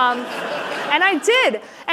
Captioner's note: laughter